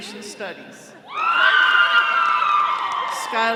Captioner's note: all cheering